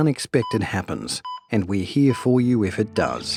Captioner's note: heart monitor beeping